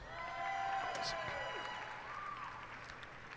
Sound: cheers and applause

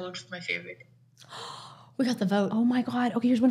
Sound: gasps

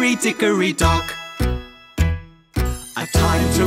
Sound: clock ticking

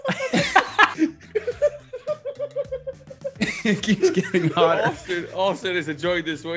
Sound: laugh

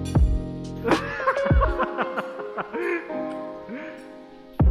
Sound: laughing

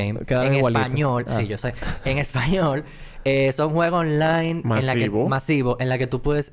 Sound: laughs

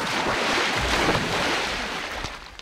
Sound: splashing

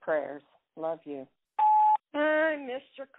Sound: phone beeps

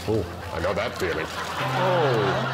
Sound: laughter

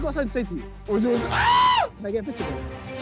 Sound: screaming

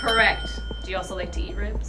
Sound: dinging

